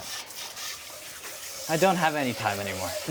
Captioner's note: water sprays